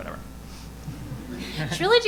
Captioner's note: audience laughing